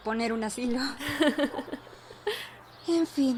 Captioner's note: both laugh